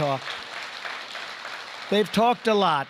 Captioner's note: applause